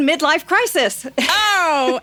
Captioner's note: laughter